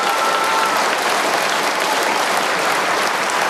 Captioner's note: cheers and applause